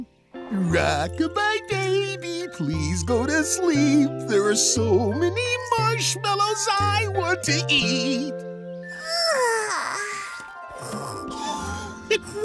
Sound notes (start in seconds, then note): 8.8 yawning; 10.8 snoring